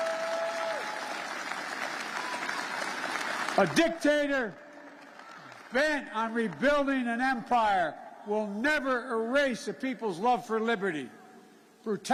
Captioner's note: cheers and applause